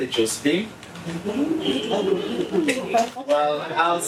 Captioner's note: laughing